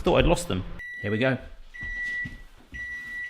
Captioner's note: beep